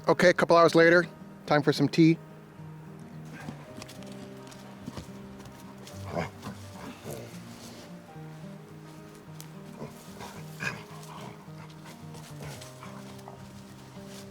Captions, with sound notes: Okay a couple hours later, time for some tea. (light music) (dog grunting)